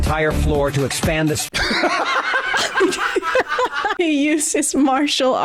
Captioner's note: intense laughter; chuckles